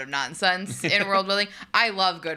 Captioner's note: chuckles